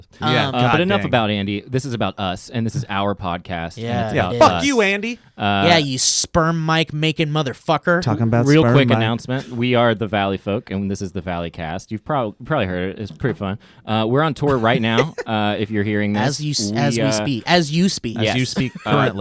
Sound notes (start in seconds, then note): 14.4 laughing